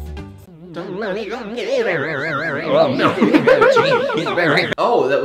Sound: distorted, warbling voices

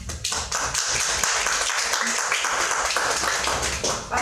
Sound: applause

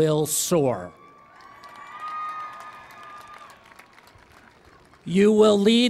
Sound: cheering and Applause

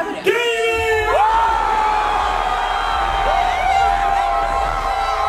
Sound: crowd cheering

